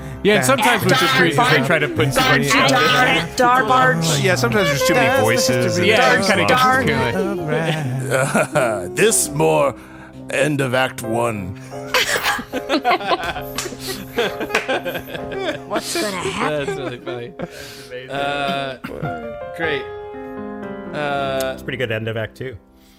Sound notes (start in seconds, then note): 10.4 laughing; 15.9 laugh